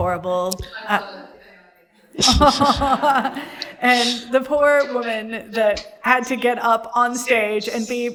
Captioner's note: laughter